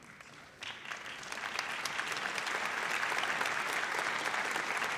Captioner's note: audience applauds